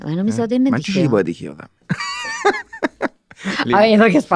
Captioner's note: they laugh